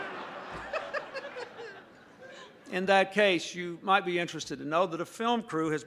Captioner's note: laughter